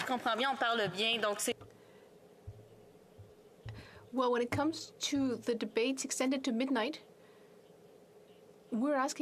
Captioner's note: speaking French